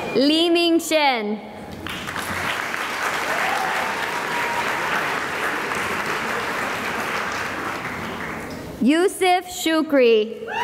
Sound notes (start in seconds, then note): 1.7 applause; 10.4 cheering and applause